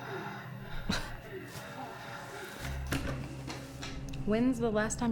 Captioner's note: Rachel scoffs